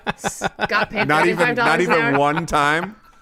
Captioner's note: laughter